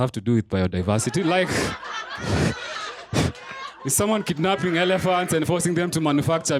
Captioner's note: laughter